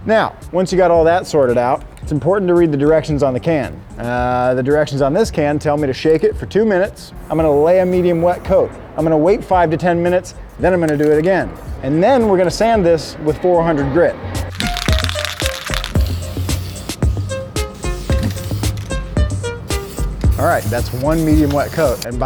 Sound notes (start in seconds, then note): 14.5 paint can shaking; 16.3 upbeat music